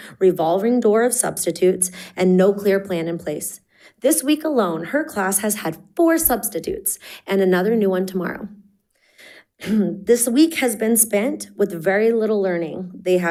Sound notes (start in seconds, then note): none